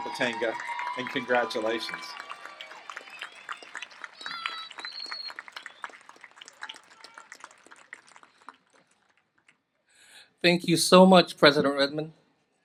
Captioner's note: applause